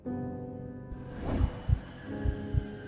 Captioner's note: ghostly whoosh